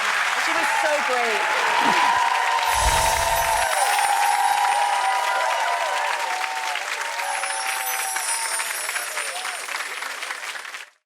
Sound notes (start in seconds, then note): 0.0 audience applause; 1.9 audience cheering